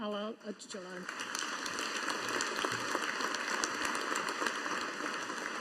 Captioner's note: audience applauding